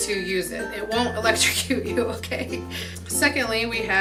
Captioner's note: laughing